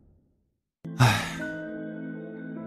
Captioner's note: sigh